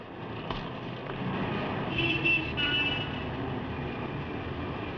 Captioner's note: horns Honking